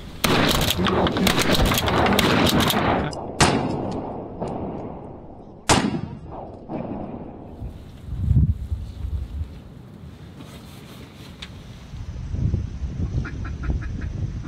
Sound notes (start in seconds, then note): 0.2 gunshots